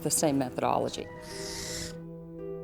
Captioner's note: screeches